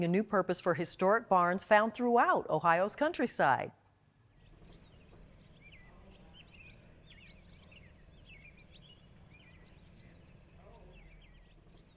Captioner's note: birds chirping